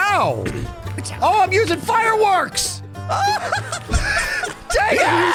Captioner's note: laughs